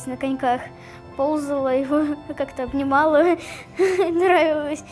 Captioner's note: laughing